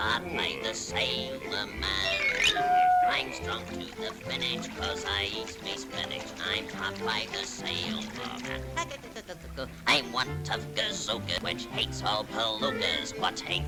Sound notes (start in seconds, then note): 7.8 Popeye noises